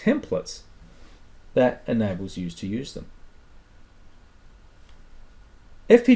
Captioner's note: pause